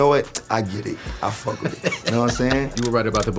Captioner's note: laughing